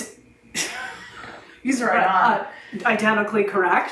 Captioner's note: laughs